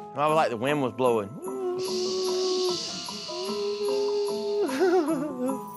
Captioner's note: makes wind rushing sound; both chuckling